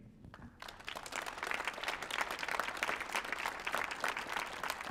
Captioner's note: audience applauds